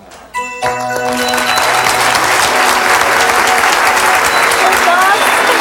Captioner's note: audience applauds